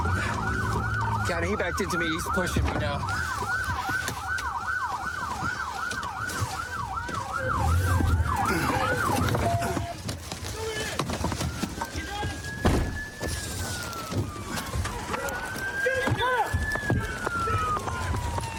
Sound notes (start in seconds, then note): 3.1 sirens blaring